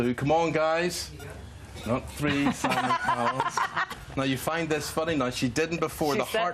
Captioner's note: laughter